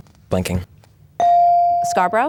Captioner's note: bell dings